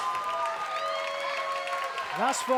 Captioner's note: crowd cheers and claps